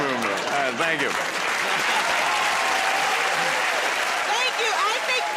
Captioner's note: cheers and applause